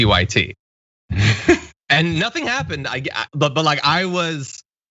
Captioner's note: laugh